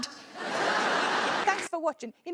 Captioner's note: audience laughing